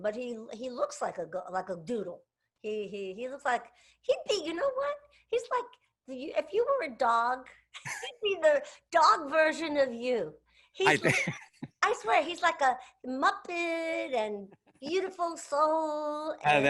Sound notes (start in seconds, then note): 10.8 laughs